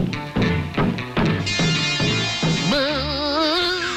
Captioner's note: banging on ceiling